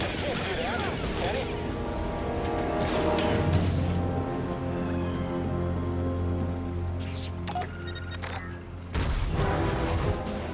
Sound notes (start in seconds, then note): 7.4 door controls beep